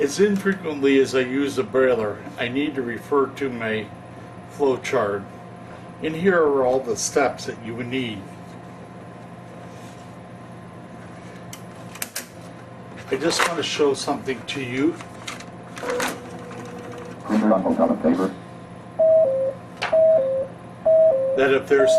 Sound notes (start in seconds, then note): 15.7 machine printing; 15.9 machine voice mumbling; 19.0 machine beeping